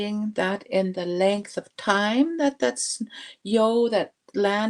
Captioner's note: speaking Indigenous language